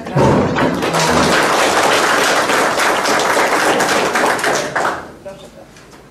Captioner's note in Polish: oklaski